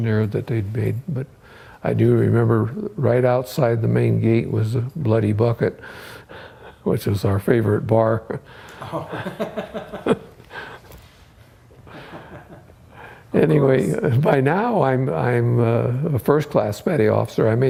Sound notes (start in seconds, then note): 8.8 laughter